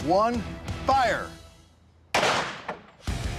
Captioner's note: gunshot